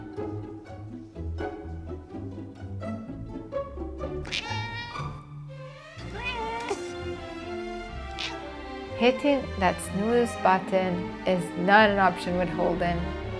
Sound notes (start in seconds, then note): 0.3 quirky music; 4.3 Holden meows